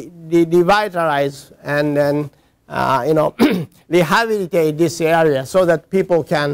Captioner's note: cough